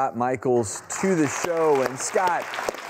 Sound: clapping

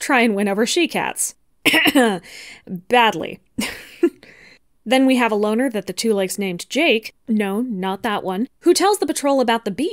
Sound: ahem, badly

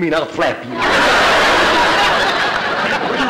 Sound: audience laughter

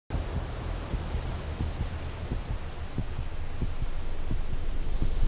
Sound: wave throbs

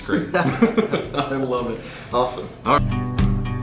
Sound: laughter

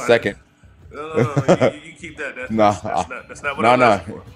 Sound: laugh

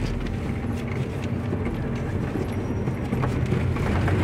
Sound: tires rumbling

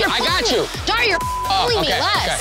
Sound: beep

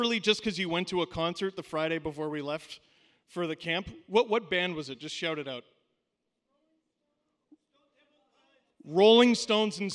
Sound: shouting

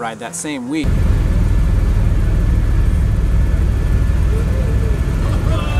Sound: helicopter engine whirring

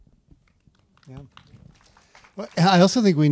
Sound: audience members applaud

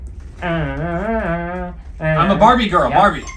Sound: humming

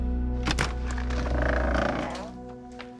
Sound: door opening

